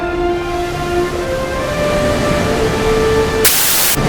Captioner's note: waves crashing